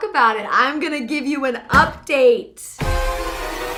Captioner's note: whacks; dramatic music